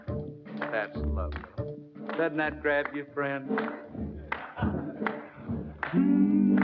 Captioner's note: laughter